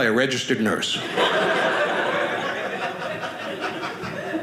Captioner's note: audience laughing